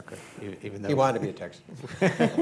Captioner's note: laughter